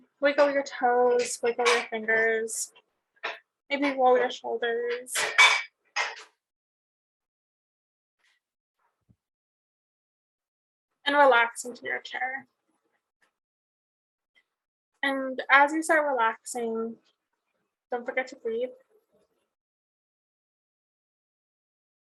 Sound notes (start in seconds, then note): 0.0 metal clanging; 5.2 metal banging